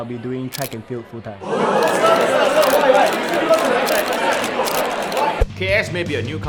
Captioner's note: shocked audience reactions